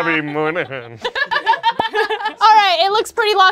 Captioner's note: laughing